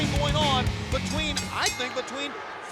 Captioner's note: bell rings